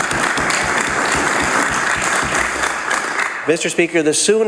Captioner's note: applause